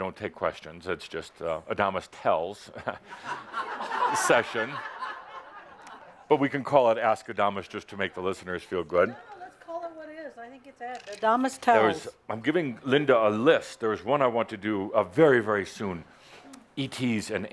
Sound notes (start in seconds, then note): 5.4 laughter